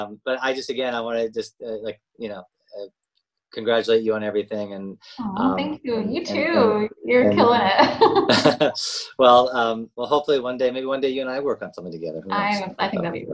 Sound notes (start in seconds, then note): 3.6 exclaims; 7.1 laughs